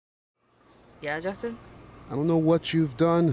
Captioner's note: coffee shop ambience